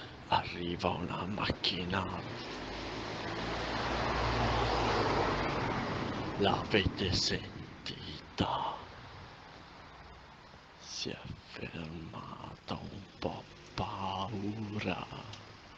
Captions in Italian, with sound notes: arriva una macchina *rumore di simulazione di macchina che passa* l'avete sentita si è fermata ho un po' paura